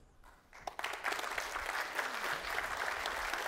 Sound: applause

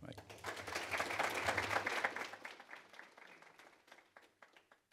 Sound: applause

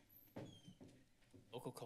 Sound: door opens

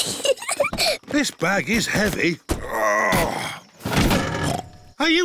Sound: peppa giggles; grunts; snorts

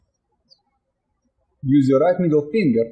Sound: birds chirping

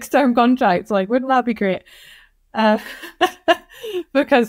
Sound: laughs

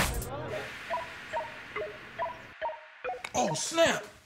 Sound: beeping

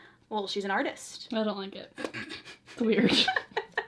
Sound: laughs

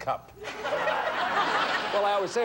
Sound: audience laughing

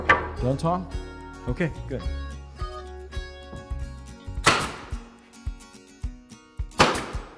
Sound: gentle music; nail gun shooting nails

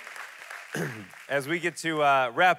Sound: congregation clapping

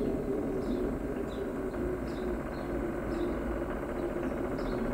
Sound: birds chirping with wind howling faintly

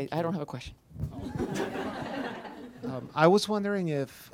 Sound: laughter

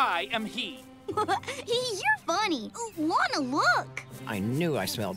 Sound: giggle

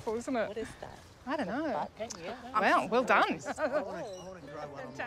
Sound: laughs

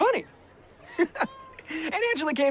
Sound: laughs

